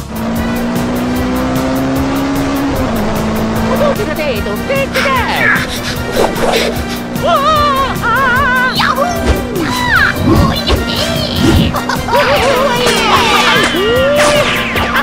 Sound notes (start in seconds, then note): 9.8 laughing